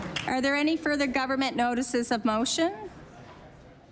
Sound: applause

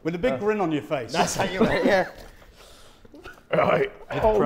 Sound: laughs

